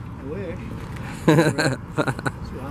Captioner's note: laughing